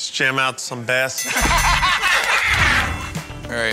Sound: ding!

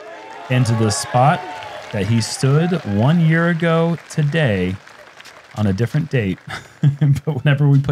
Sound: chuckles

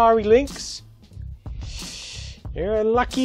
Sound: sucks in through teeth

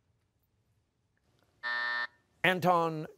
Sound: buzzer

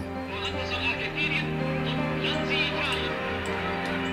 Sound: speaking in German

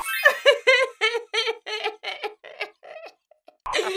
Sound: sobs loudly

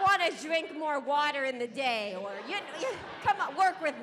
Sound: audience laughing

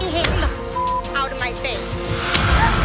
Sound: beep

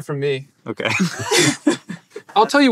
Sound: they laugh

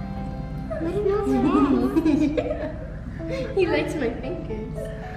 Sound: children laughing

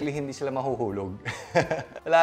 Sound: laughs

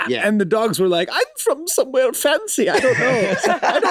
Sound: fancy voice; group laughs

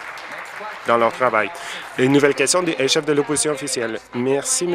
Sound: applause

